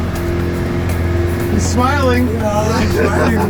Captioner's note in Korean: 웃고 있네